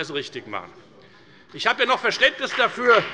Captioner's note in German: Beifall bei der FDP